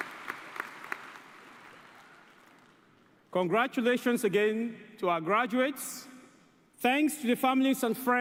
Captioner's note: cheers and applause